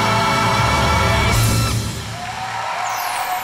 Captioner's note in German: Jubel und Applaus